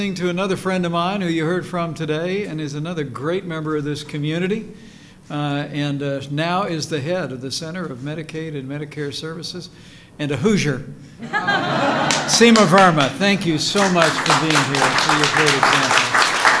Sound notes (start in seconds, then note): 11.2 laughter; 16.2 applause